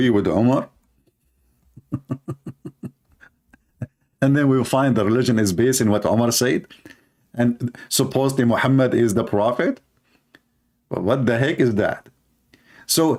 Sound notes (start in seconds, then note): 1.7 Ketawa